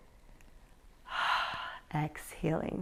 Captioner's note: exhales